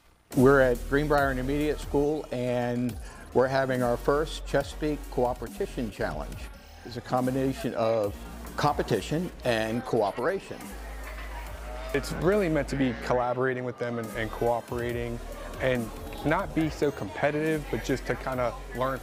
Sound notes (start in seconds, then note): 10.7 group talking